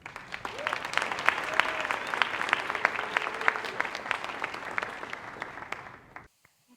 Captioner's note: applause